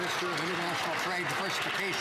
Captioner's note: some Applause